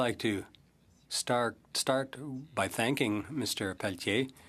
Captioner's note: speaking French